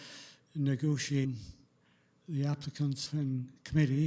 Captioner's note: audio drop